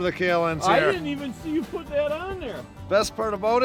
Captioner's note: voiceover